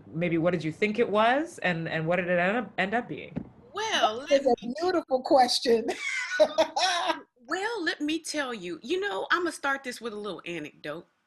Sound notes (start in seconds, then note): 5.9 laughs